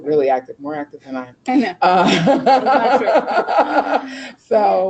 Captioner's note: laughing